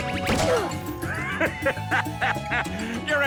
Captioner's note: laughing